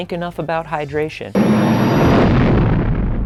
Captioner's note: engine roaring